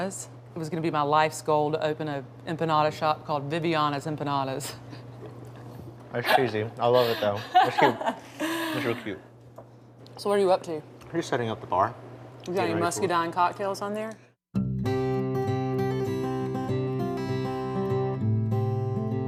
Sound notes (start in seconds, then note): 6.2 laughing; 15.2 bluegrass music